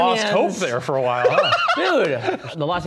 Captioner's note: laughing